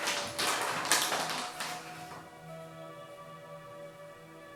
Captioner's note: bag crinkles; soft chanting; soft guitar music